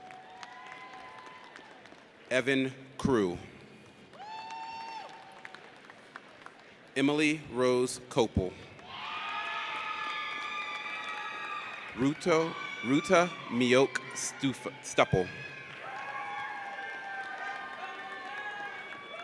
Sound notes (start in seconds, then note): 0.0 audience applauds; 4.1 audience cheers; 8.9 audience cheers; 16.2 audience cheers